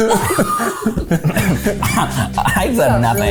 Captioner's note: laughing